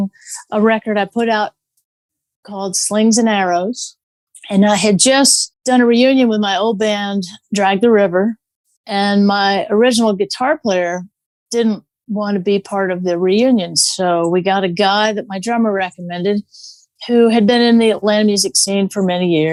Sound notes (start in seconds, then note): none